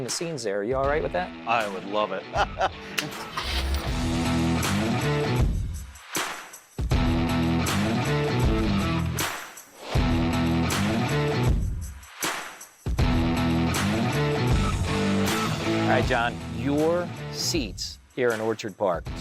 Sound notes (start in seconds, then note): 3.3 engine starting; 4.2 rock music